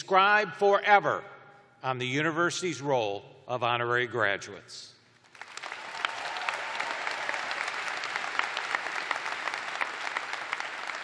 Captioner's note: applause